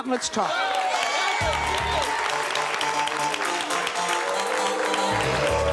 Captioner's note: audience applauding and booing